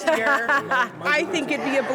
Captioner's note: laughs